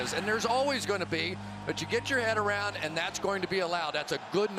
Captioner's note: cheering